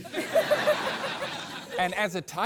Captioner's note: laughs